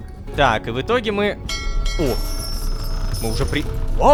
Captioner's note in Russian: Звук корабельного колокола